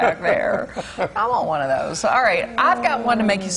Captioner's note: laughter